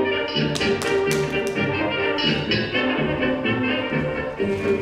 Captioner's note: Petruchio claps